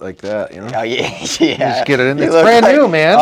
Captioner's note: laughing